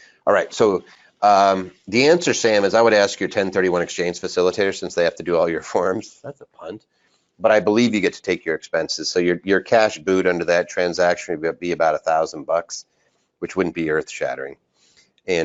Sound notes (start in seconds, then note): 6.1 laughs